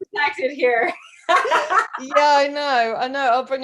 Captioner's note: laughs